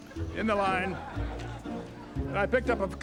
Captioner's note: audience laughing